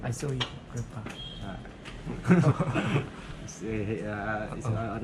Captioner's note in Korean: 멋쩍은 웃음